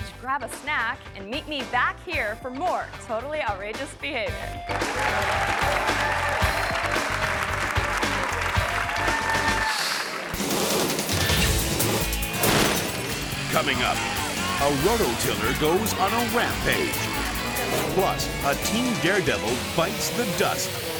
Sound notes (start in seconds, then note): 4.6 audience applauding and cheering; 10.7 upbeat music